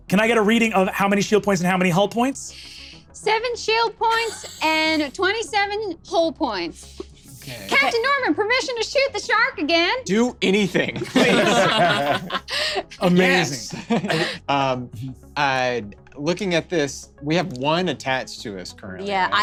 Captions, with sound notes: Can I get a reading of how many shield points and how many hull points? - Seven shield points and 27 hull points. "Captain Norman, permission to shoot the shark again?" - Do anything, please. (laughs) - Amazing. - Yes. Looking at this we have one attached to us currently.